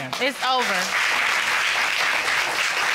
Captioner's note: applause